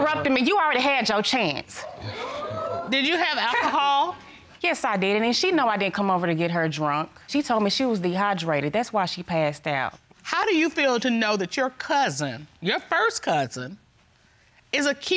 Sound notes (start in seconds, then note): 3.4 scoffs